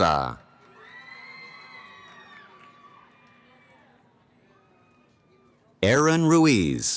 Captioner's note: cheering